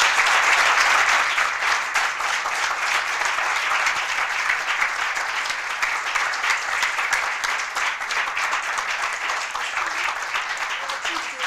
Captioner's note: applause